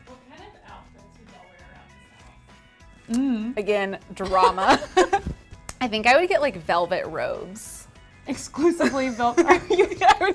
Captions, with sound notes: Again drama. (Ladies laughing) I think I would get, like, velvet robes. Exclusively velvet, are you?